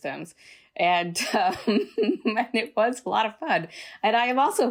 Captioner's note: laughter